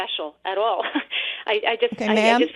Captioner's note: laughs